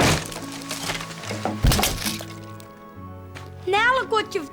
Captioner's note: cracking